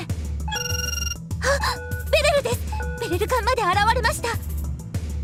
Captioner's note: gasp